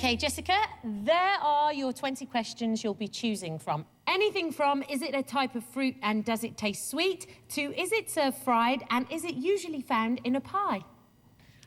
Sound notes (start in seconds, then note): none